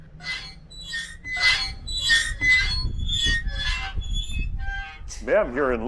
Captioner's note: squeaking